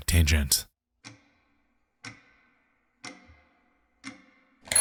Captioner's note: clock ticking